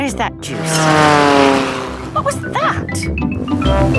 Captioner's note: plane flies